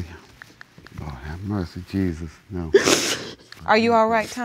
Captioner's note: sniffles